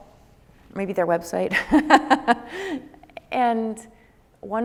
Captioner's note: laughs